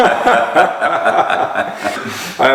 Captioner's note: laughter